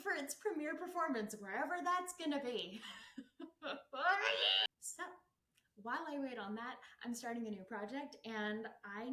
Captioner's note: agitated scream